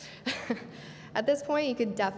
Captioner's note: laughing